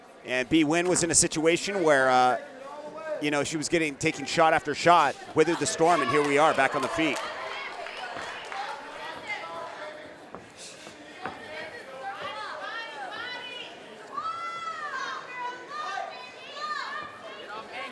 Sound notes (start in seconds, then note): 7.7 audience cheering